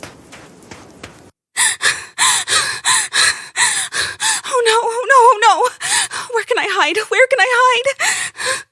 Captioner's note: panting